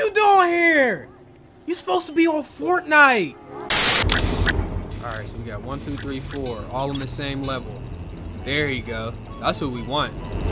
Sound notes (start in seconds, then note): none